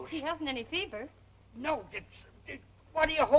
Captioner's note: grumbling